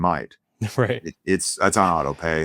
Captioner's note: chuckles